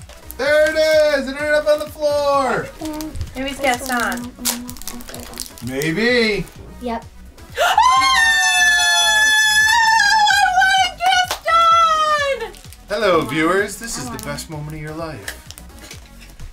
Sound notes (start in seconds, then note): 7.5 screaming